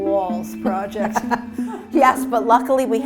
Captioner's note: laughs